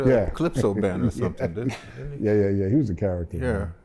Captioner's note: laughter